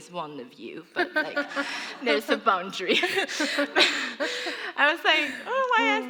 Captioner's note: laughter